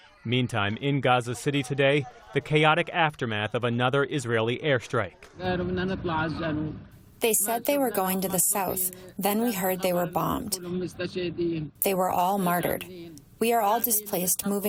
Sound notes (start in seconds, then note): 7.7 through translator